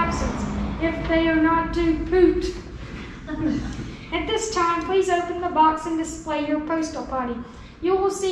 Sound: laughing; laughing

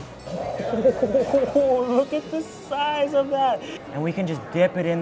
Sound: laughs

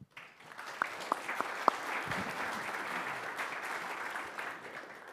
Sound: audience clapping

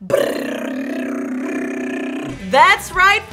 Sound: imitating drum rolling

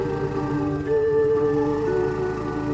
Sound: bike Screeching

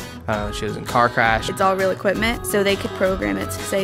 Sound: voiceover

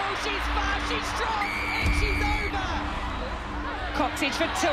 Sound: whistle blowing

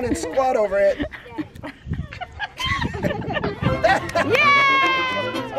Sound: laughing

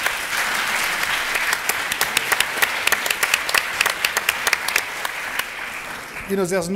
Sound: applause

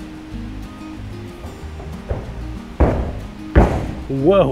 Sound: footsteps thudding

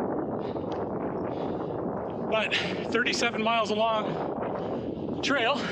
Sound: wind blowing

